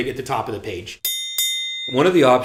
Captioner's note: ding ding